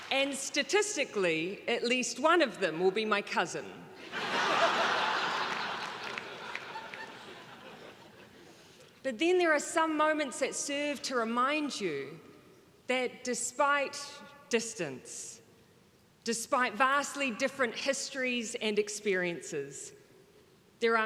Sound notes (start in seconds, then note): 4.0 crowd laughing